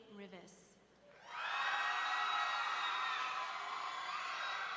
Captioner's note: audience cheering